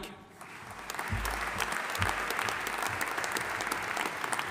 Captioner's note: audience applauding